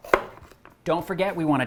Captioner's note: knife thuds